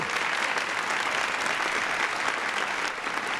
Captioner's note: applause